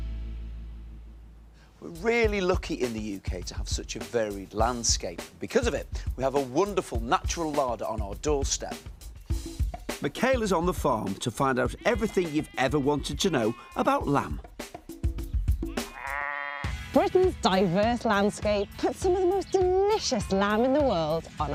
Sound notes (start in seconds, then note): 15.6 sheep bleating